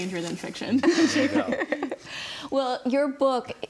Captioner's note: group laughs